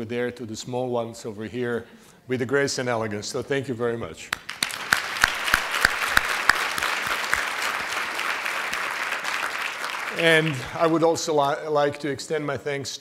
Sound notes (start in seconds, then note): 8.0 applause